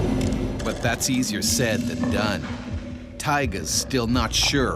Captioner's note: voiceover